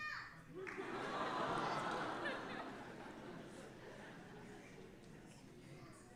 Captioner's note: audience laughing